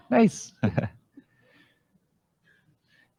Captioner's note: chuckles